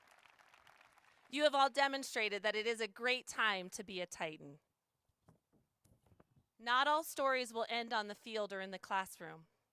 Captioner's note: applause